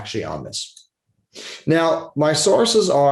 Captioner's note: mouse clicking